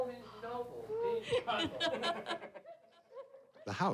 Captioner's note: laughter